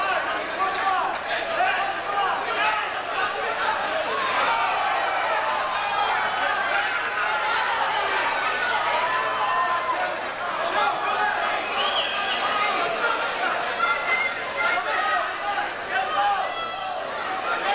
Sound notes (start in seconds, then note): 5.0 loud cheering from the audience